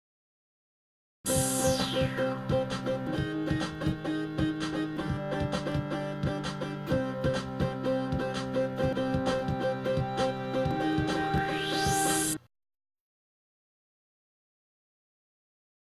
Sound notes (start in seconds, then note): 12.8 silence